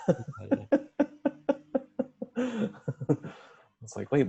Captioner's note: laughing